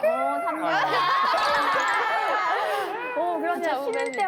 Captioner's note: laughing